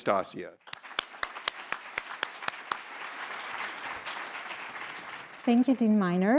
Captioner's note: all applauding